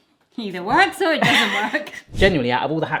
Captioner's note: laughter